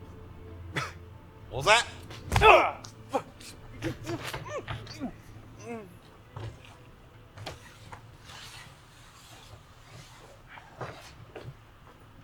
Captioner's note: coarse accent